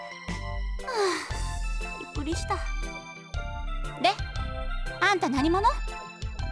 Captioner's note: sigh